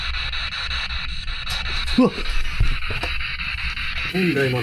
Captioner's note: snap